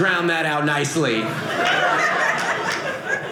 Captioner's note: audience laughing